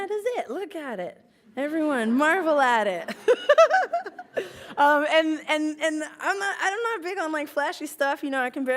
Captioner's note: laughs